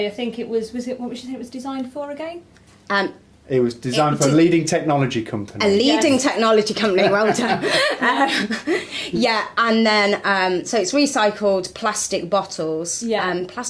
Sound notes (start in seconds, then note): 5.3 laughs